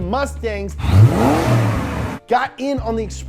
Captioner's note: engine revving